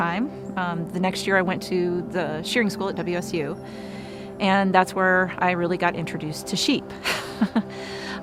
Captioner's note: laugh